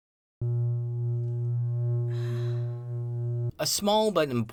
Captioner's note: wired humming